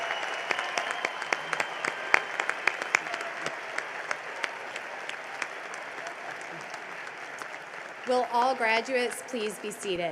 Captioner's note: cheering and applause